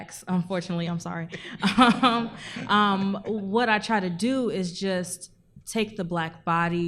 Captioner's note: laughs